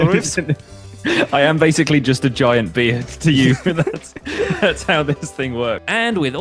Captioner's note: laughs